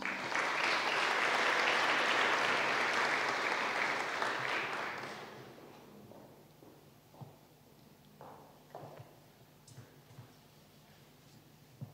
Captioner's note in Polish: oklaski